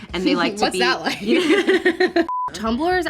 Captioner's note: both laughing